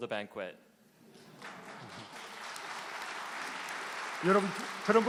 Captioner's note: applause